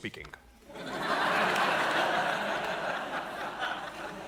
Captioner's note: audience laughing